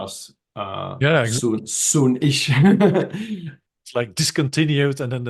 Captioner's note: laughs